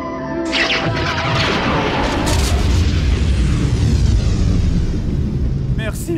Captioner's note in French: tir puis explosion